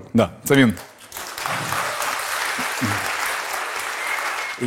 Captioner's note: applause